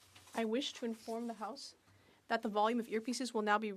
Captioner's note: speaking French